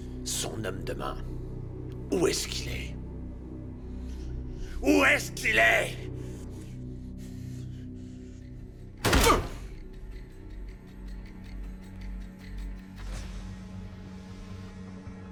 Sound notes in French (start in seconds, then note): 9.0 coups de pistolet; 11.2 musique douce